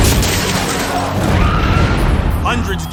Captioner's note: woman screams